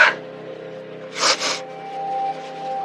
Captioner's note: sniniffleles